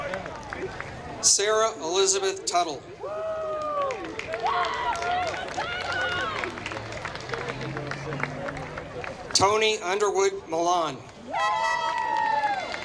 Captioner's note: applause; applause